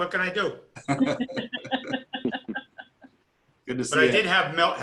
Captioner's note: laughing